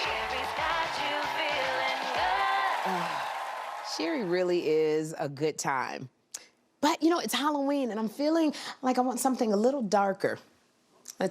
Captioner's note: cheering and applause